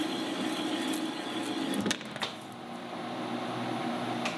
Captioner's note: sound of machine running